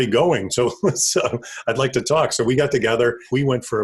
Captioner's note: laugh